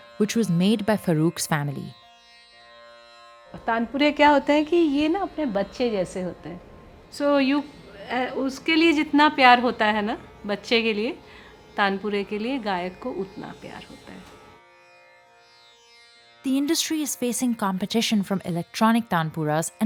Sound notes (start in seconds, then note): 4.1 speaking foreign language